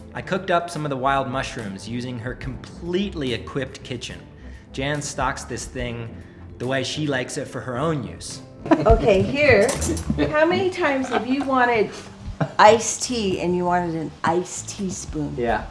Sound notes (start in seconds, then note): 8.6 laughs